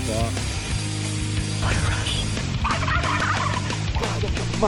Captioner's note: turkeys gobbling